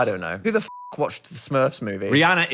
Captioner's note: beep